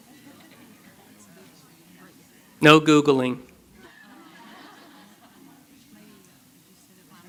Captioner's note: laughter